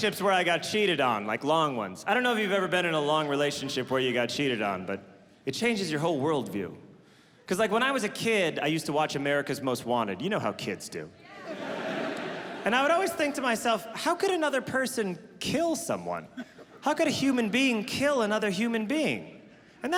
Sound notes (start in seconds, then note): 11.3 audience laughing